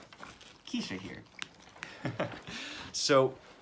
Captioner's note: chuckles